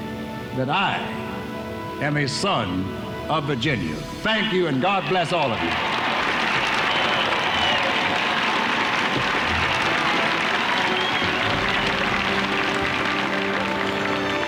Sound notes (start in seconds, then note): 6.7 audience applauding; 6.7 audience cheering